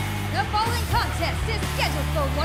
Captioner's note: bell ringing